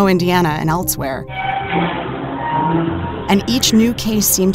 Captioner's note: metal creaking